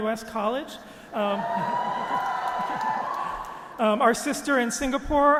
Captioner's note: audience applauding